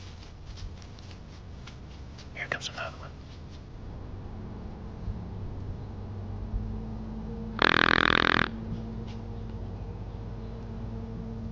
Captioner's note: whispering